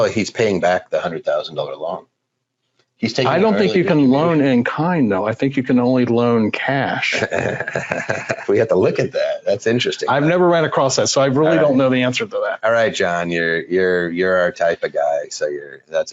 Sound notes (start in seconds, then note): 7.0 laughing